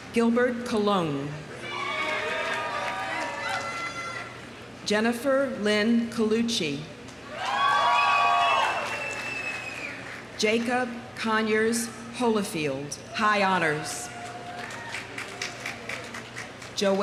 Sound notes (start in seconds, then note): 1.6 audience cheering; 7.3 audience cheering; 7.4 audience applauding; 14.2 audience applauding